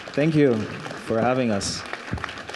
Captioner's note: audience clapping